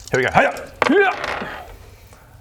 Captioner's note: hrrgh!